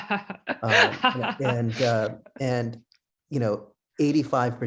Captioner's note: laughing